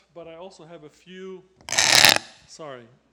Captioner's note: loud crackling